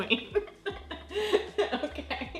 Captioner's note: laughs